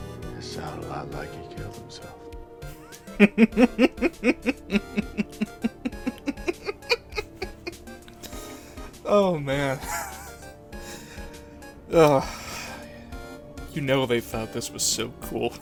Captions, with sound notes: "Sounded 'lot like he killed himself." "*laughter* Oh, man... Ugh, you know they thought this was so cool."